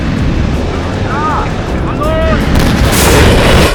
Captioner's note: speaking German; rocket blast